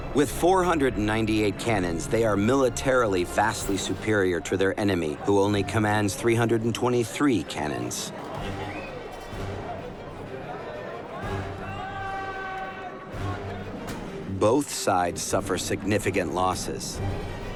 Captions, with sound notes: With 498 cannons, they are militarily vastly superior to their enemy who only commands 323 cannons. [shouting] Both sides suffer significant losses.